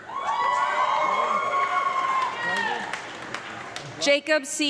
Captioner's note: audience clapping and loud cheering